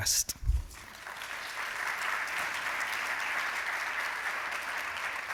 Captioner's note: applause